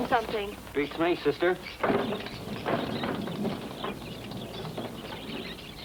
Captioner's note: birds chirping